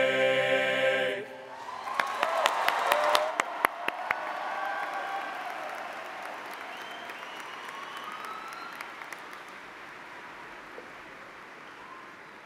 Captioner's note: cheers and applause